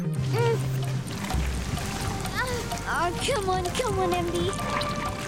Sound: grunting

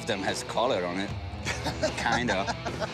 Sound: laughter

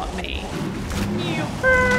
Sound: nyoom

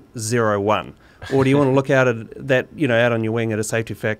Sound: laughing

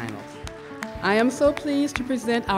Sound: applause

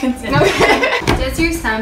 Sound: both laughing

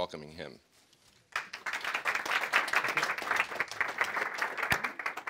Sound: audience applauding

